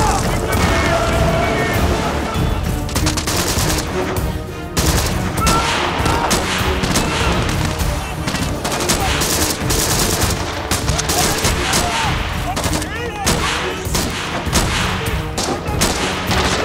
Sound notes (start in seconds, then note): 2.8 gunshots